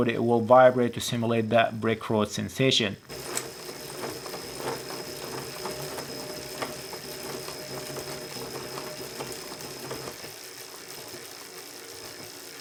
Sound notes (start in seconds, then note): 3.0 bike vibrates simulating brick road